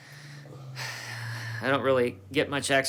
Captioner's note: sighing